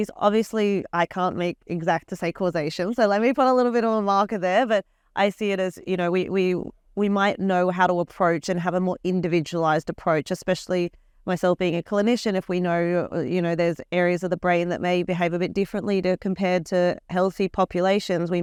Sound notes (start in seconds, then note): none